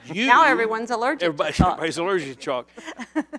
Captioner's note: laughter